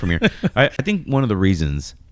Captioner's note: uh